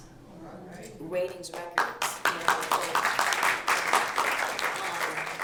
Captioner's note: applause